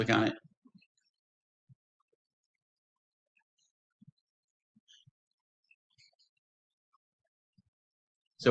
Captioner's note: pause